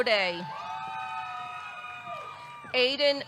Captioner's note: audience cheering; audience clapping